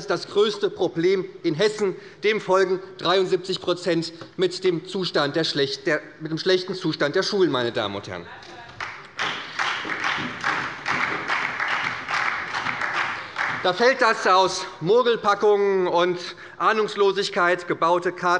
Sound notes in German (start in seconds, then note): 8.7 Beifall bei der SPD und bei Abgeordneten der FDP